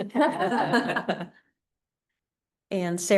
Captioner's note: laughter